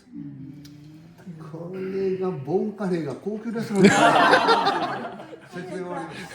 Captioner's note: laughs